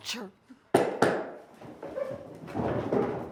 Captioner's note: cane tapping